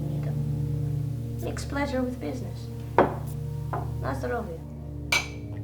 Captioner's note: speaks Russian